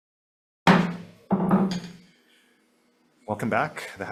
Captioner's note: gavel banging